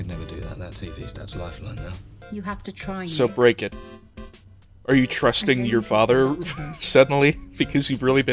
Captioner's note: wheeze